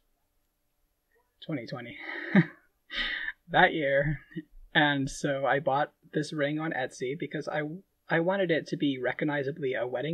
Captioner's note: laughing